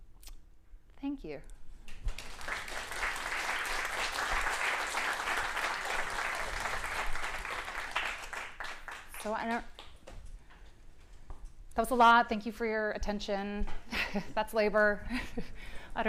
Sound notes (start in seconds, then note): 1.9 applause